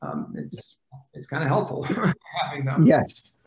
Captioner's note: laughs